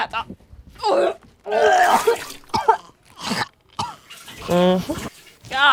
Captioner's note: puking